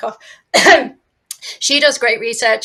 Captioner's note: coughs